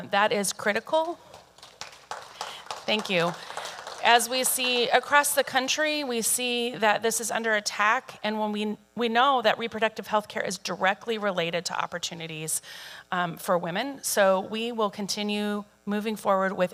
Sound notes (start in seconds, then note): 2.9 audience applauding